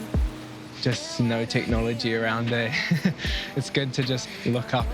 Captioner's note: laughs